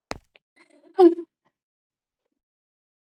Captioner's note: guttural noise